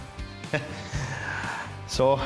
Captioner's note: laughs